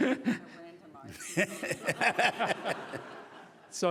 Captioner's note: laughing